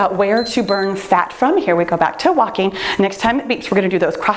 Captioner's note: timer beeps